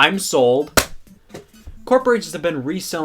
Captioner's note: bottle thuds